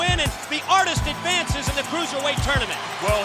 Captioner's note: bell ringing